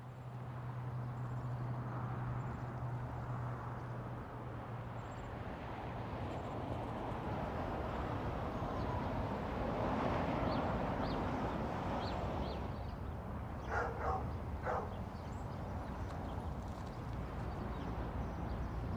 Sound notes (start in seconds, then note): 0.2 cars whooshing; 9.2 birds chirping; 13.6 dog barks